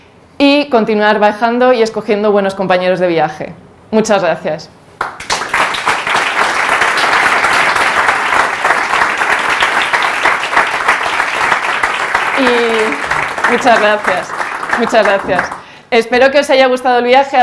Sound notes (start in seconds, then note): 11.0 claps